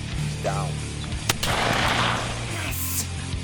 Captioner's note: gun firing